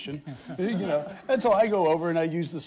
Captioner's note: laughter